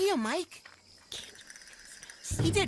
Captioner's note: Zoey Whispering